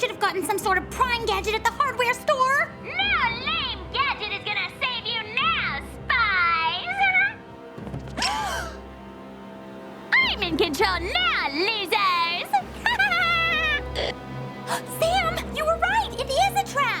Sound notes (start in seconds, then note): 4.0 intercom